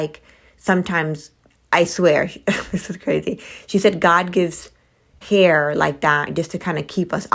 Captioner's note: laughter